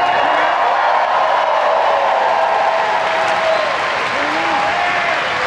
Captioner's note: audience cheers